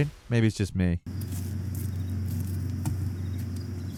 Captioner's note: footsteps plodding; crickets chirping